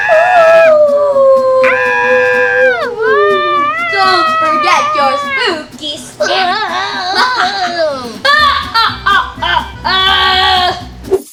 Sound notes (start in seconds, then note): 1.6 Rubble screaming; 6.3 maniacle Laughter